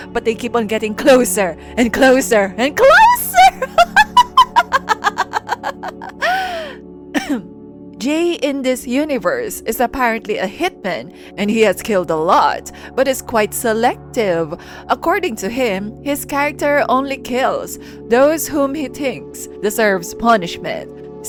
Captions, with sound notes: BUT THEY KEEP ON GETTING CLOSER AND CLOSER AND CLOSER!!! (crazy laugh) (ahem) JAE in this universe is apparently a hitman, and he has killed a lot but is quite selective. According to him, his character only kills those whom he thinks deserve punishment.